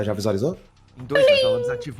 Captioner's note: notification sound